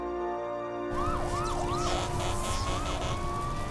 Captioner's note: sirens blaring